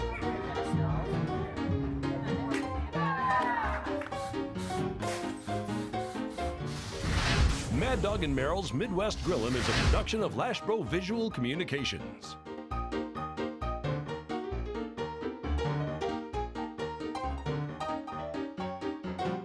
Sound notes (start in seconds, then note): 6.3 flames roar; 12.1 upbeat music continues